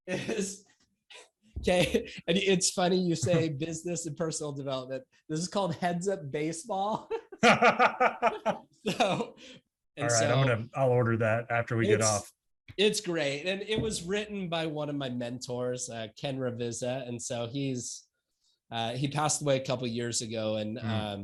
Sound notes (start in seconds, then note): 6.8 laughs